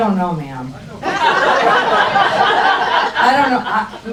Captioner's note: crowd laughs